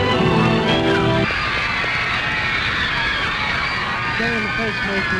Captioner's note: screams and applause